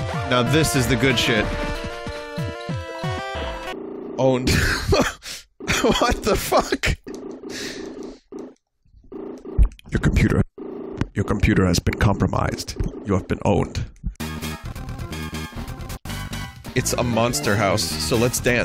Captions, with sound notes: Now this is the good shit. "Owned." (laughs) What the fuck? (Morpheus voice) Your computer...Your computer has been compromised. You have been owned. "It's a monster house", so let's dance!